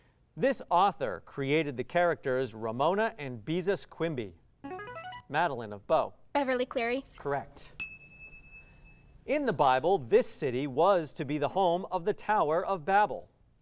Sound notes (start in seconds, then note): 4.2 ringing; 7.8 ding